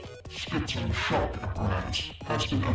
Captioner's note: distorted voice